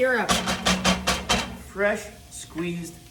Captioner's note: metal clanking